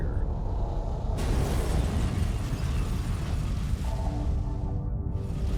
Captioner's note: flames roaring